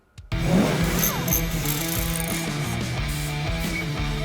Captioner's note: engine revving; tool clicking; upbeat rock music